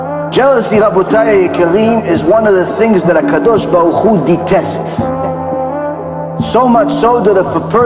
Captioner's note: hebrew